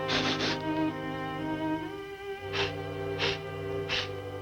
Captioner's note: somber music; gopher sniffing deeply